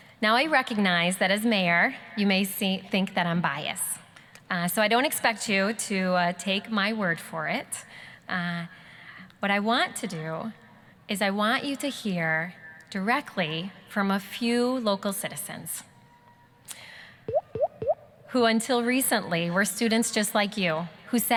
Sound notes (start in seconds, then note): 17.3 boop boop boop; 17.3 sound effect